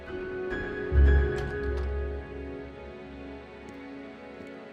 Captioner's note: door clicking